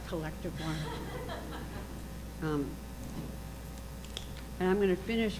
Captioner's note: audience chuckling